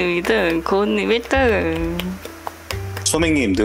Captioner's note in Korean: 박수